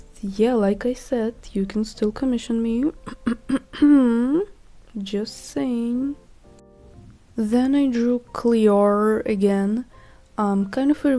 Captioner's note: cough cough